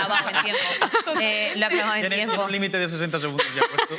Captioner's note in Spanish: algunos ríen